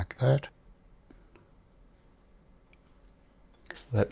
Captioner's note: silence